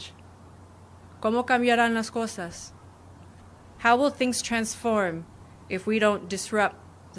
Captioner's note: speaking spanish